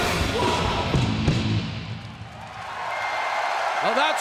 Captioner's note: crowd cheering